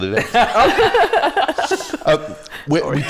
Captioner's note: laughter